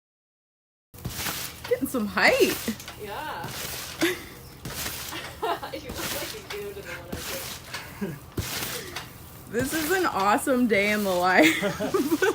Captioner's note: laughing